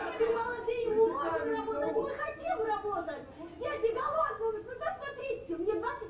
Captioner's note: man speaking foreign language; woman yelling in foreign language